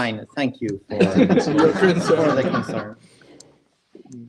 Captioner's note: laughing